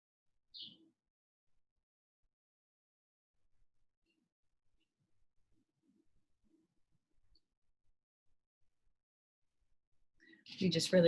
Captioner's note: silence for deep breathing exercise